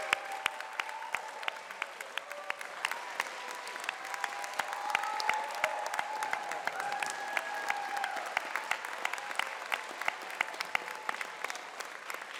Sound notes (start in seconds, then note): 0.0 applause